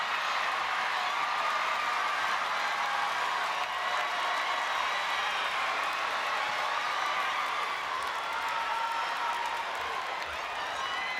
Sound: applause

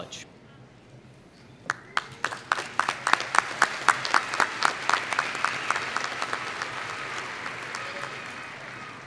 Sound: applause

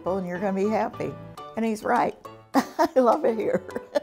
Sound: laughs

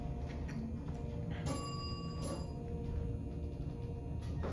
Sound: bell dings to 3 / three

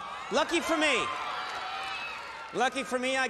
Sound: audience cheering

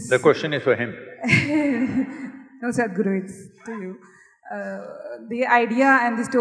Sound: laughs

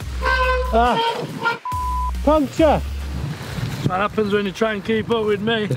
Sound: beep

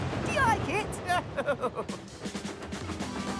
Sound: chuckles

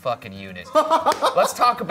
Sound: laughing

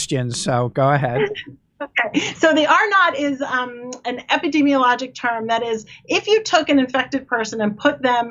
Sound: laughs

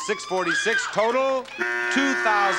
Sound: buzzer

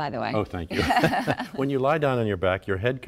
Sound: laughter

